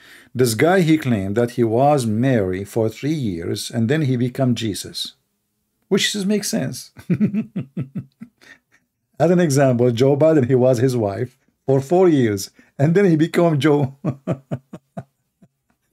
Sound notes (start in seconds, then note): 6.9 Ketawa